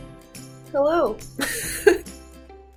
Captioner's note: laughs